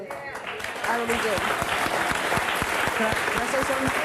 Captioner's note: audience applauding